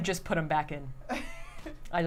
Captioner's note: laughs